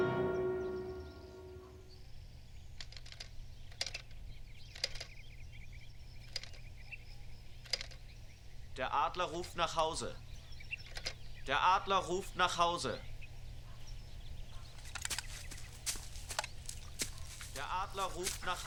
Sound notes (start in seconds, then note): 3.6 clicking; 8.5 speaking german